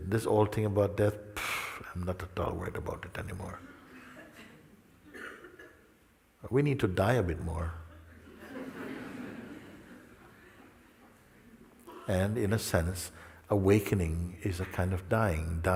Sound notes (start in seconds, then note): 7.9 risos